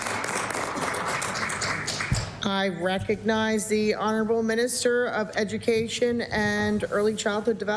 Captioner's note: applause